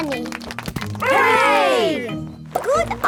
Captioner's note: crowd applauding